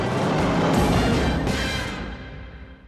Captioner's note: engine revving